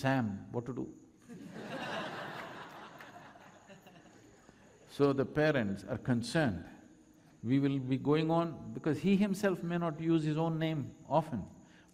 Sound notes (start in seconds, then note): 3.0 laughter